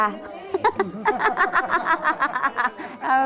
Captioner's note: laughing